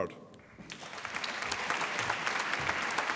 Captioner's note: applause